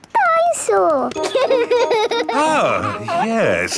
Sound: giggles

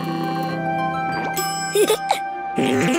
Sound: chuckles

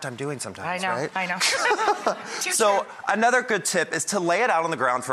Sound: laughs

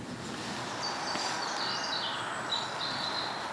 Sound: distant street noise

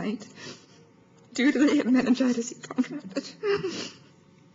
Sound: sobbing

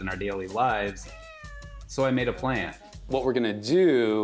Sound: Ling-Ling meows

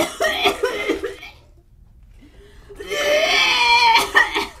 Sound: vomit sounds

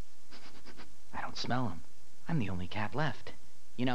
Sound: sniffs

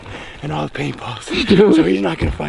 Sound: laughing

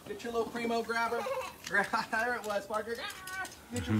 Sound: giggling

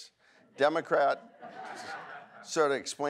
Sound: audience laughs

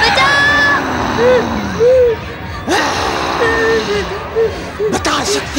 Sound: crying; grunts

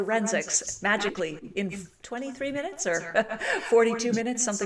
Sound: chuckles

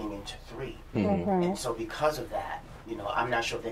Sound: sounds of agreement

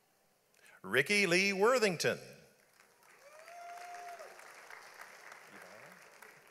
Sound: audience applauds

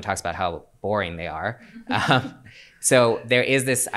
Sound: chuckles

